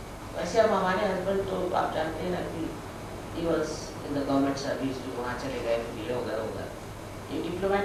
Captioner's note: hindi